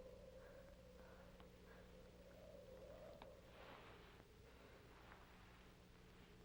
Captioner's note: wind howls faintly